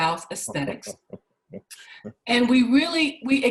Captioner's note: laughs